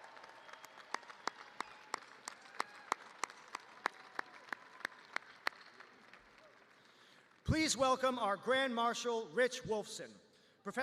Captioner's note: cheers and applause